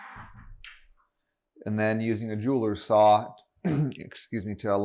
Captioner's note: coughs